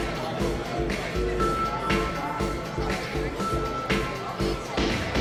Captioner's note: people chattering